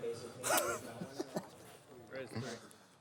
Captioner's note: laughs